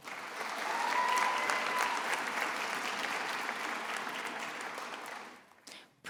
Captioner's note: attendees applauding and cheering